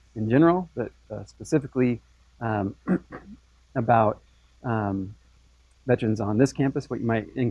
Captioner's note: cough